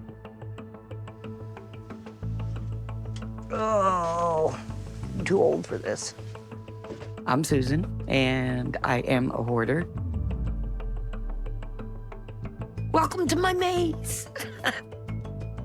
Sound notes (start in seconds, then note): 3.2 groaning; 14.3 chuckling